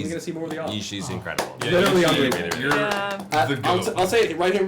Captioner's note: clapping